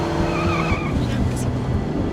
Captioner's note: Alejandra mutters